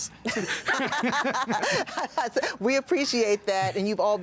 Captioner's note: laughter